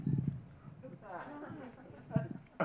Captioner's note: groaning; audience laughing